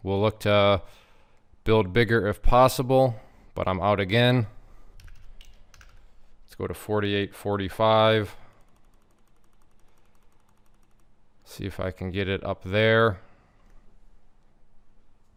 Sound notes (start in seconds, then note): 5.2 keyboard clacking; 8.4 mouse clicking